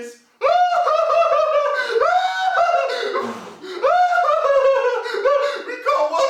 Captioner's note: sound of crying